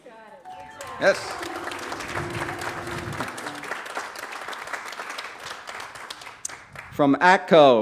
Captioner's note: applause